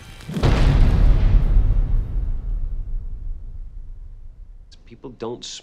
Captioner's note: explosion